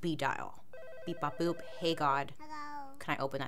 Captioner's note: phone ringing